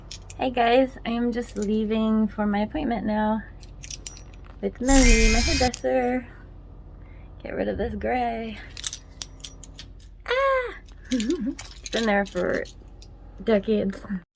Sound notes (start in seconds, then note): 11.1 giggles